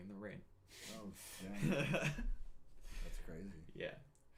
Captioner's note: laughing